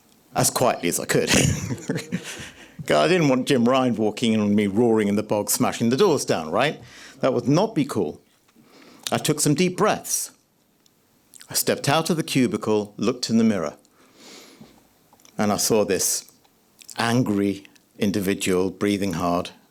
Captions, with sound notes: ...as quietly as I could. [laughs] God, I didn't want Jim Ryan walking on me roaring in the box, smashing the doors down, right? That would not be cool. I took some deep breaths. I stepped out of the cubicle, looked in the mirror. [inhales] And I saw this angry individual breathing hard.